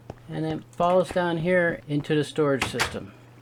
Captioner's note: trap door opens